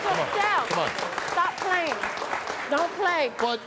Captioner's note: audience clapping